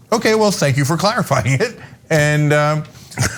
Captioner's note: laugh